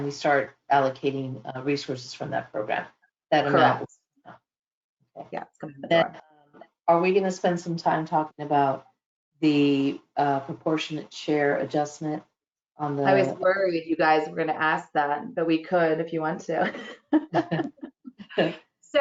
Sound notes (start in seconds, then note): 16.7 laughter